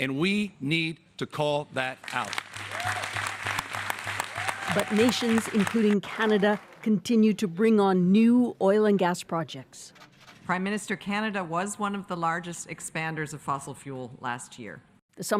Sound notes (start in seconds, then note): 4.4 applause